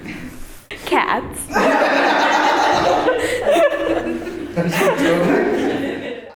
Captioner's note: laughter